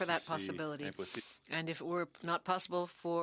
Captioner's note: speaking French